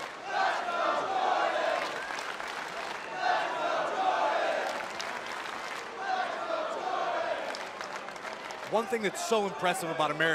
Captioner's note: fans chanting